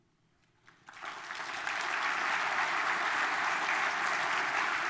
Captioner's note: audience applause